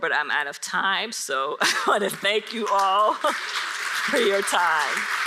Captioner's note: audience applauds